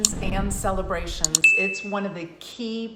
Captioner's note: mouse clicks and bell rings